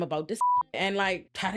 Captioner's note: beep